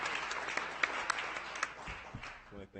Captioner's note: audience applauding